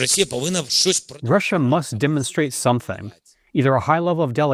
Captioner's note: through translator